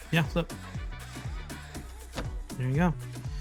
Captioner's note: tropical upbeat music; tortilla flips